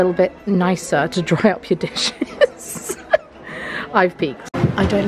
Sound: giggles

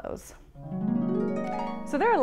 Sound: chimes

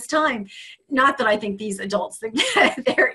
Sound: laughing

